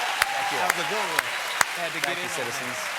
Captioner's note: cheers and applause